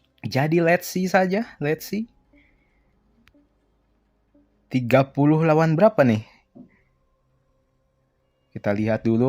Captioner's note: gasp